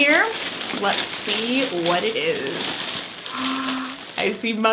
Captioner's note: gasps